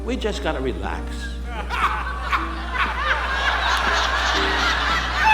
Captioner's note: audience laughing